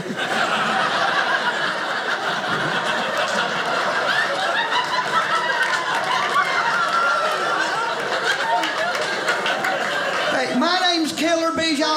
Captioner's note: audience laughing